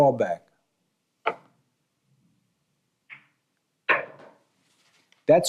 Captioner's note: balls clinking